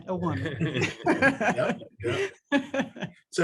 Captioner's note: laugh